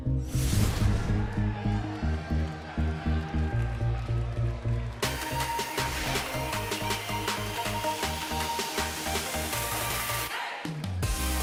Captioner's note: cheers and applause